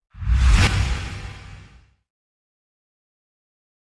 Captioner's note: air whooshing